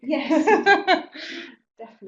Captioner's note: laugh